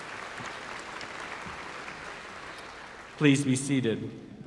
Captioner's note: applause